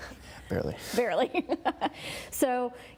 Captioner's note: laughing